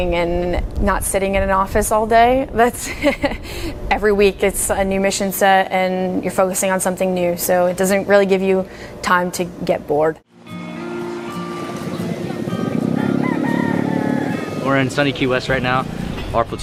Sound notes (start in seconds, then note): 10.2 peaceful music; 12.5 rooster crowing